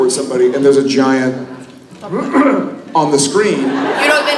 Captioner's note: cough cough